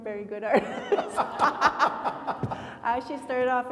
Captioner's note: laughing